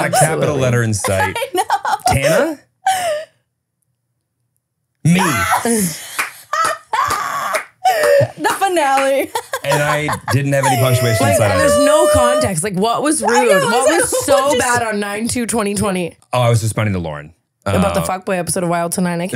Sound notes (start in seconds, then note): 0.0 laughing; 6.7 all clapping and laughing